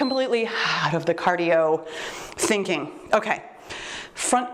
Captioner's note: timer beeps